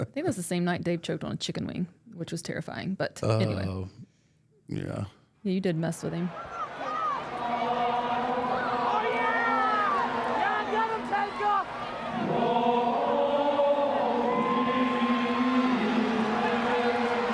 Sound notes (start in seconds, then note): 6.9 crowd jeering; 11.7 ominous choir music; 12.2 crowd cheering